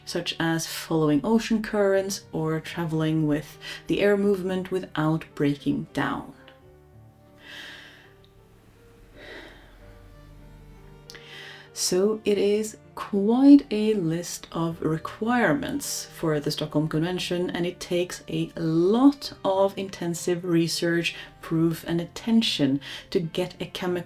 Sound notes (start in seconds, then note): 7.4 heavy sigh